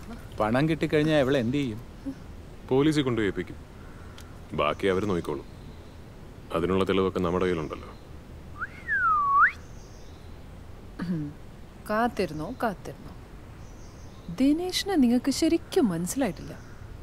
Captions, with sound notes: What will you do to her after you get the money? Give her up to the police Rest is up to them We have enough evidence to nail her [whistling] Happy waiting! You don't really know Dinesh